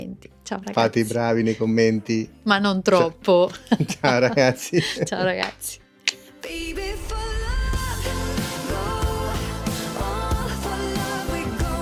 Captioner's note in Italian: risate